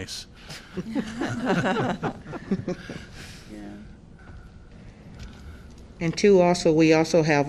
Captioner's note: laughter